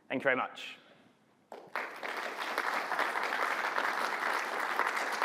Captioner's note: applause